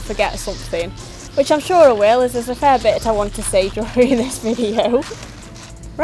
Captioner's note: laughs